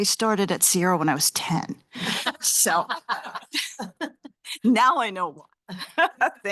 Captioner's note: laughter